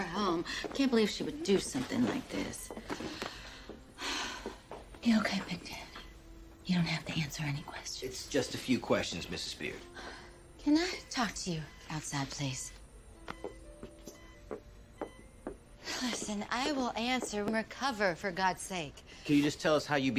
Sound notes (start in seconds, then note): 3.9 exhales